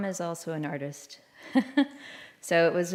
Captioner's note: laughter